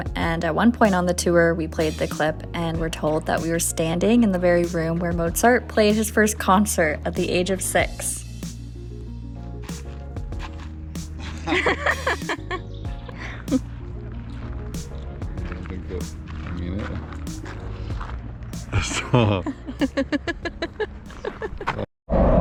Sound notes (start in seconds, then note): 11.2 chuckles; 18.7 evil laugh